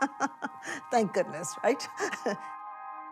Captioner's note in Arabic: تضحك